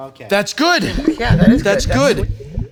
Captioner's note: water bubbling